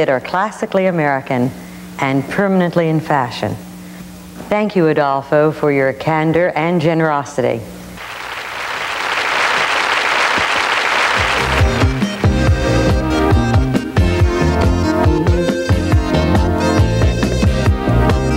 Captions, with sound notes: are classically American, and permanently in fashion. Thank you Adolfo for your candor and generosity. (audience clapping) (upbeat music)